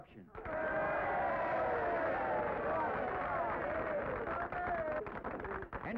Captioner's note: audience cheering; audience applauding